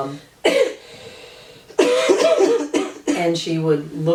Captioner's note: coughing